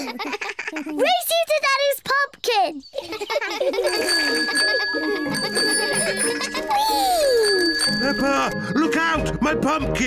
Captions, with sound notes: Race you to Daddy's pumpkin! -(ALL LAUGH) -(BICYCLE BELL RINGING) -Whee! -Peppa, look out! My pumpkin!